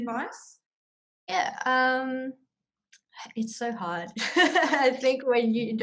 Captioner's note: laughs